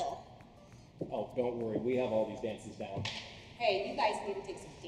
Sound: slap sound

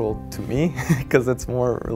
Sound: chuckles

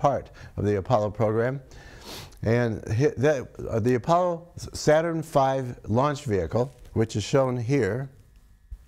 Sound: sniffs

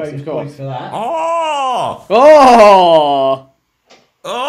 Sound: cheers

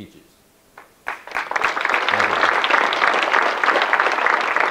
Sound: audience clapping

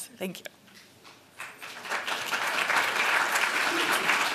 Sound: applause

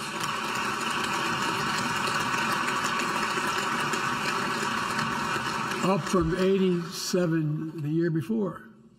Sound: applause

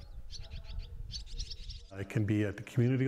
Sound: birds chirping

